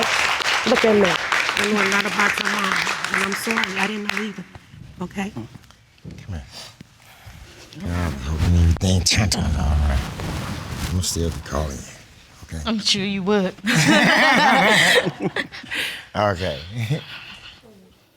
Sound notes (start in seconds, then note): 13.6 both laughing